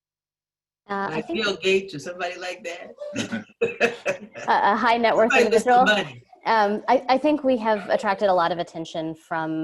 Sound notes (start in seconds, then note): 5.2 laughter